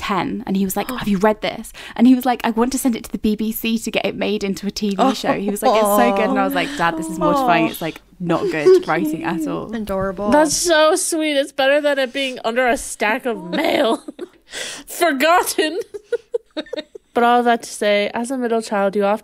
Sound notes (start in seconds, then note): 15.5 laughing